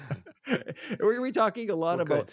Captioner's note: laughing